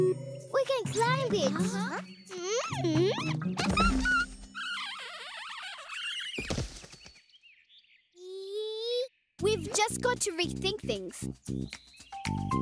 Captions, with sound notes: - We can climb it! - Huh? - Mmm! (giggling) Eee... - We've just got to rethink things.